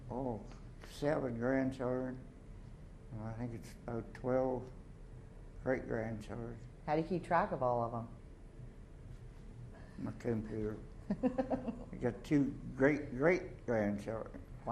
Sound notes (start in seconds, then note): 11.0 chuckles